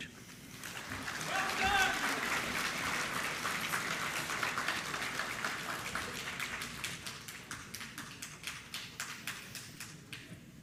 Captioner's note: applause